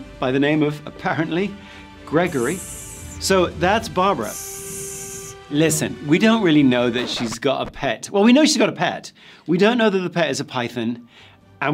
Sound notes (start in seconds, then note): 1.9 snake hissing